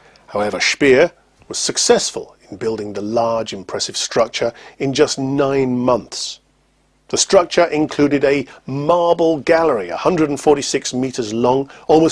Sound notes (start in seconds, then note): none